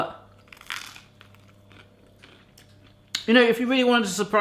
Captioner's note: crunching